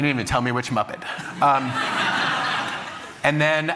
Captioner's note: laughter